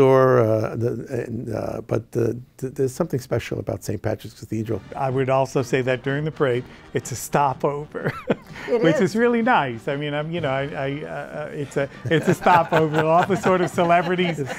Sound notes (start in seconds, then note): 8.0 laughs